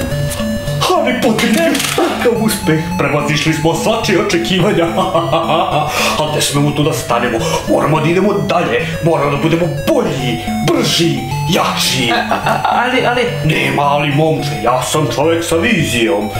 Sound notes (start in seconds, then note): 3.7 he laughs; 11.9 stutters